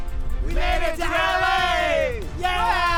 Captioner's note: crowd